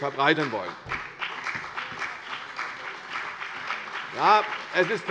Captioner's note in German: Beifall CDU und BÜNDNIS 90/DIE GRÜNEN